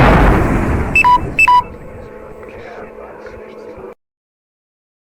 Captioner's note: low battery warning